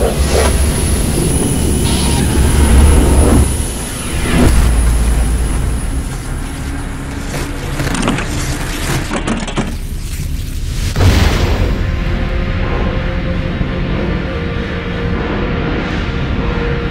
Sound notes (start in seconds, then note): 0.0 wind whooshing; 11.1 atmosphere rumbling